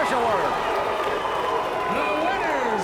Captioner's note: audience barks